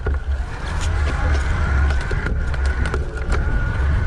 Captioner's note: bike gears rattling